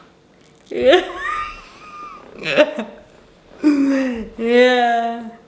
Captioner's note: laughing